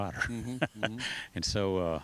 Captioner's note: laughs